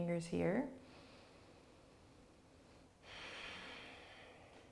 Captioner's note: inhales and exhales slowly